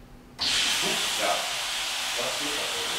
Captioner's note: water rushes